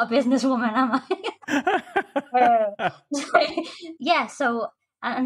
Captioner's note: laughter